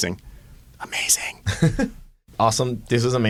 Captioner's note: whispering